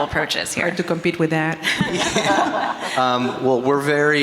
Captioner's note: everyone laughing